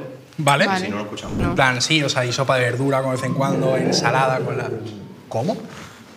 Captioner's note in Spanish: Rugido de perro